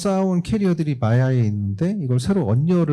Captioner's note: speaking korean